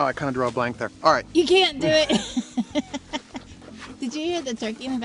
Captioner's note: laughs